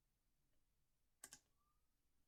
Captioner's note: click